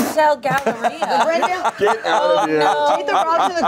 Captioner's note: everyone laughs